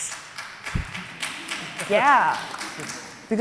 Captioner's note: audience applauding